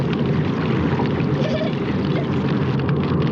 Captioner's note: carrie whimpering